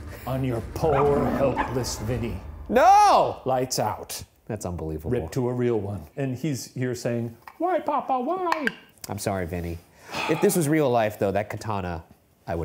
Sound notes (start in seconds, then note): 0.9 dog barks; 10.0 sighs